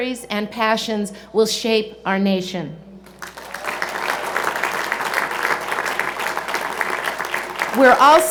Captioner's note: cheers and Applause